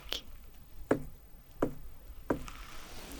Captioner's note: tapping sounds